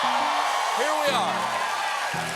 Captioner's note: cheers and applause